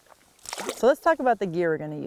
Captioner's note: water splashing